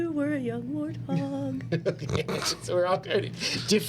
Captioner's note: laughing